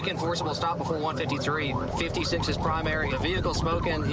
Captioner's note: warning sirens